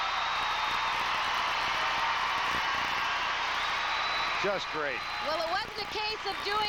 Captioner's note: applause